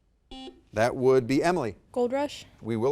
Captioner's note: buzzer dings